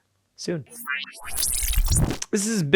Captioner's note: electronic beeping